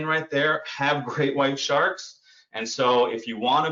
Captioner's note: chuckles